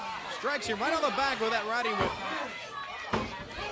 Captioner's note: crowd chatter